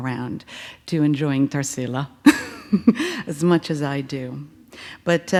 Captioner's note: laughs